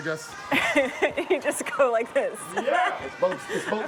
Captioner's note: laughs